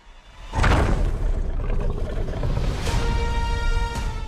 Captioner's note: dinosaur growls; dramatic music